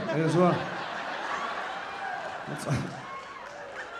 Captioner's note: audience laughing and cheering; audience laughing